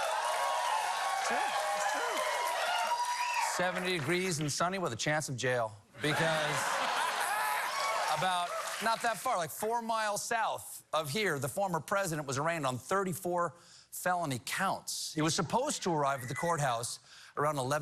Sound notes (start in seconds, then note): 6.0 cheers and applause